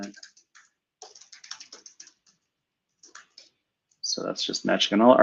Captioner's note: keyboard clatters